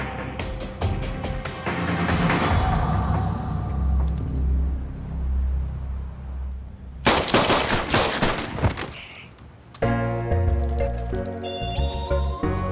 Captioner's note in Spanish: Disparos